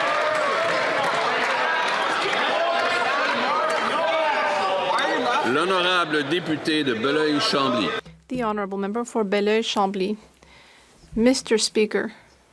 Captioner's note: some applause